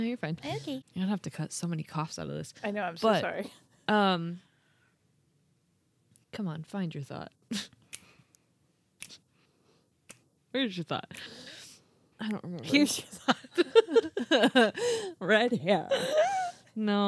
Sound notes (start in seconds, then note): 9.0 snapping; 12.7 laughing